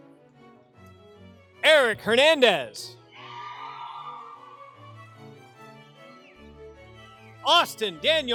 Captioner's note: applause